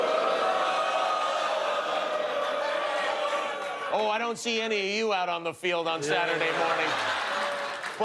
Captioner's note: audience booing